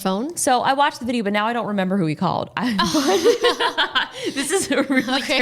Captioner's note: both laughing